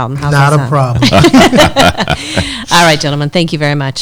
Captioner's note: all laughs